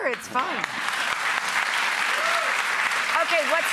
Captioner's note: crowd applause